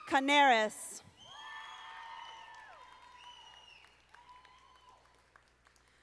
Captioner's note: audience applauding